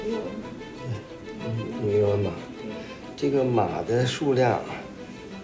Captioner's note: hablan un idioma extranjero